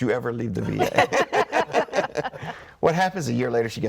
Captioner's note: all laughing